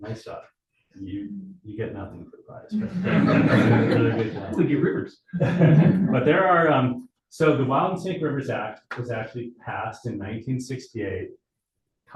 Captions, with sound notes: Nice job. You get nothing for the prize. (audience laughing) They give rivers. (chuckles) So the Wild and Safe Rivers Act was actually passed in 1968.